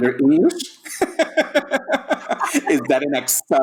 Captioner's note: all laughing